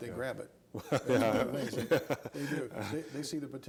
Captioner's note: laughing